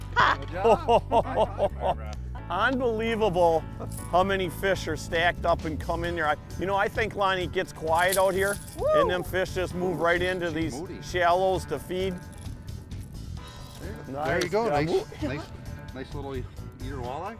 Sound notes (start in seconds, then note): 1.6 laughing